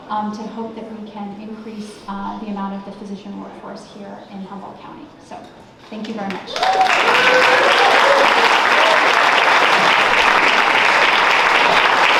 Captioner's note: applause